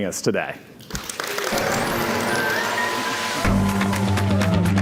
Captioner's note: audience applauding and cheering; upbeat instrumental music